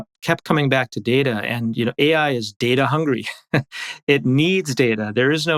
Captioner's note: laughs